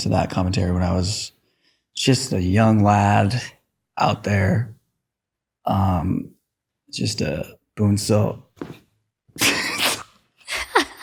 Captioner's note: laughter